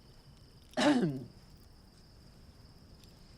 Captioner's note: clears throat